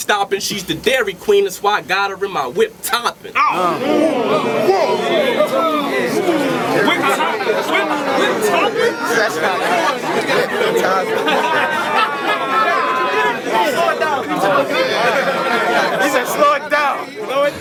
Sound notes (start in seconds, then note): 2.9 crowd Reaction